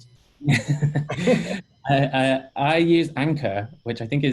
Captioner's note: laughing